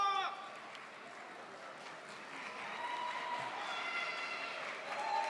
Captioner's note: audience cheers